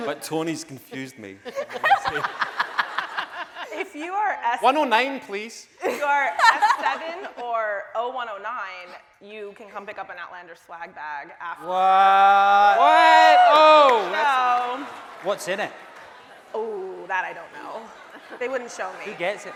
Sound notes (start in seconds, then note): 1.5 laughing; 5.9 laughing; 13.7 shouting